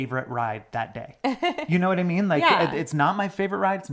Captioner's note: laughs